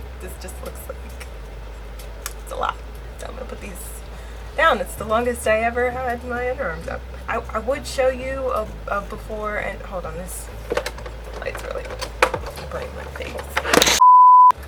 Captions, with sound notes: this just looks like it's a lot so I'm gonna put these down it's the longest I ever had my underarms up I...I would show you a a before and hold on this light's really like burning my face (camera falls) (beep)